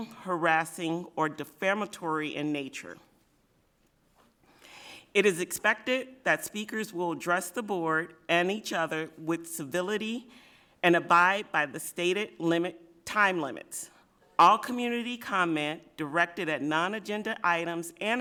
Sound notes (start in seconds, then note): none